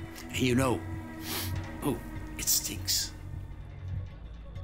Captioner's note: sniffs